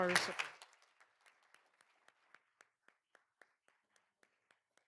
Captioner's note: all applauding